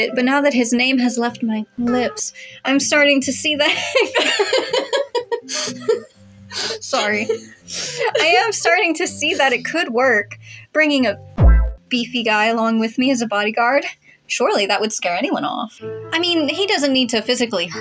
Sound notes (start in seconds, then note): 3.8 laugh